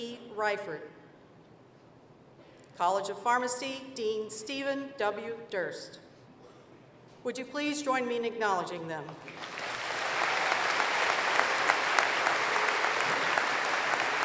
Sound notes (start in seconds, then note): 9.2 applause